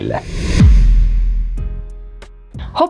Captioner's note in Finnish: siirtymä-äänitehoste